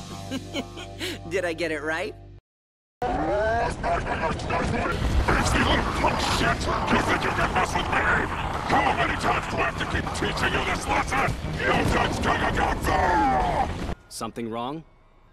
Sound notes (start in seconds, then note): 0.1 laughs; 3.1 Satan noises; 11.2 More satan noises